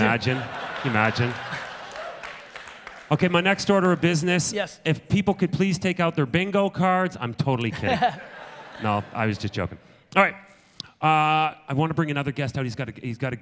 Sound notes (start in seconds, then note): 0.0 audience applause; 7.6 audience laughter